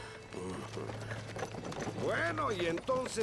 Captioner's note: hoofbeats